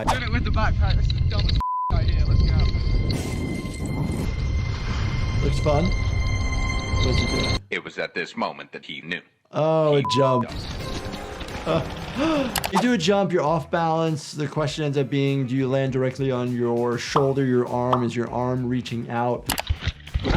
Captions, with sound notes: - Trying it with the backpack. This is dumb as (beep) right here, let's go. - Looks fun. - [Voiceover] It was at this moment that he knew he (beep) up. - Oh, a jump. You do a jump, you're off balance. The question ends up being, do you land directly on your shoulder, your arm, is your arm reaching out?